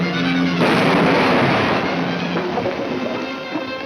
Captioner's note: explosion roars